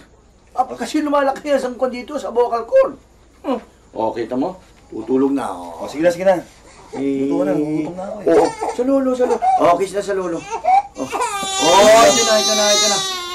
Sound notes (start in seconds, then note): 5.2 scoffs; 10.6 baby wails